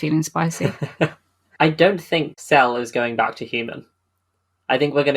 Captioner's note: laughs